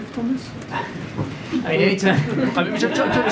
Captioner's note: laughter